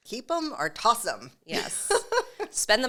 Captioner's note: laughs